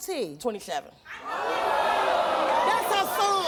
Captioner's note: audience groaning